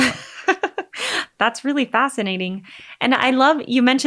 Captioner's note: laughing